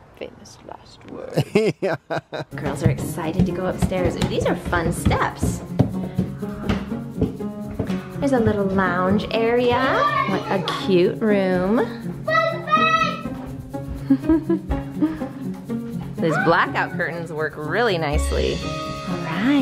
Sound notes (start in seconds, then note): 1.3 laughs; 6.1 bright music; 14.0 giggles